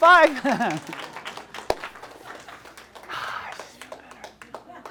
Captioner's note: audience applauds